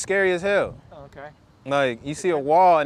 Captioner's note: male Voice